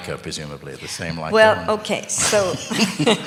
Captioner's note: laughter